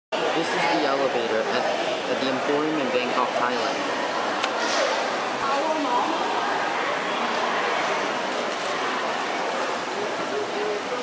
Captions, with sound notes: This is the elevator at the Emporium in Bangkok, Thailand. [crowds chatting]